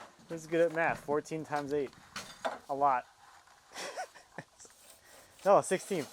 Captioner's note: laughs